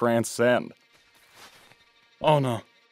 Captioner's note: footsteps heard in distance